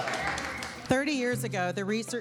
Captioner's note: applause